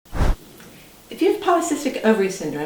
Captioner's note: air whooshing